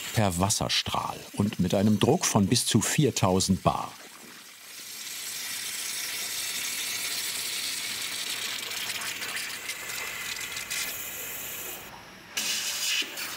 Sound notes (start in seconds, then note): 4.0 hissing, bubbling